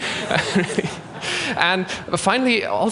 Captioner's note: laughter